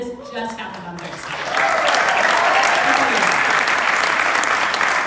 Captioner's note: crowd clapping